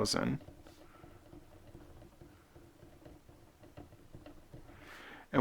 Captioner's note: writing